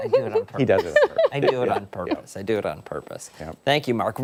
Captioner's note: laughter